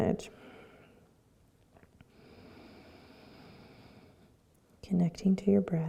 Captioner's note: breathing